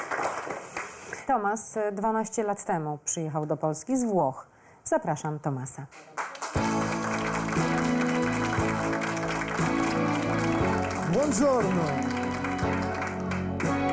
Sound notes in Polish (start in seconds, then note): 6.0 Aplauz